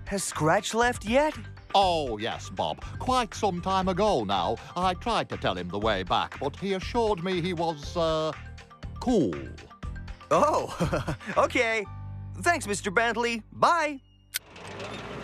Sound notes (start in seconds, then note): 10.5 laughs